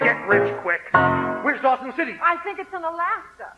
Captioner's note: spoken, excited